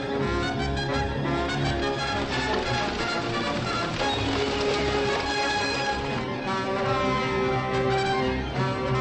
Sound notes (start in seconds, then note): 1.2 splashing; 6.9 action music